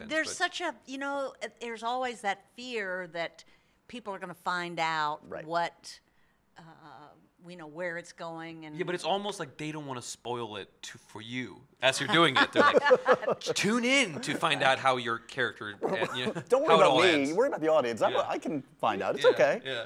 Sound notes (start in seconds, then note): 12.1 laughing